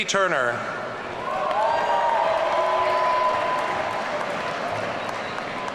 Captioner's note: audience cheering